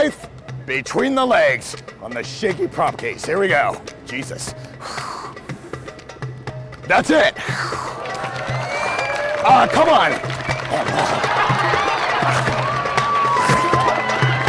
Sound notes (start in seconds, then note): 4.6 exhales sharply; 10.5 audience cheering and applauding